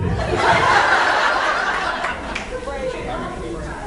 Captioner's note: laughs